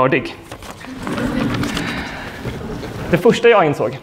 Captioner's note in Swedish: skratt